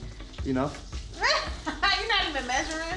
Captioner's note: laughing